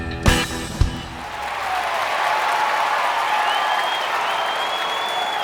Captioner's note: crowd clapping and cheering